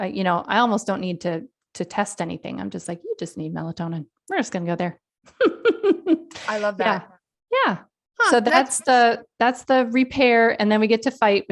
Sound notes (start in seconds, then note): 5.4 laughs